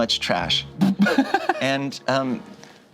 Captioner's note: laughs